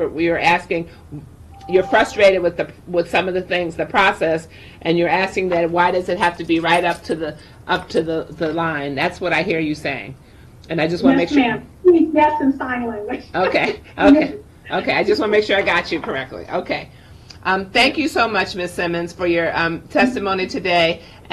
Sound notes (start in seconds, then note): 14.6 laughing